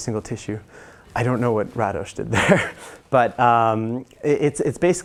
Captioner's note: laugh